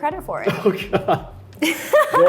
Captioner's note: laughs; Arden laughs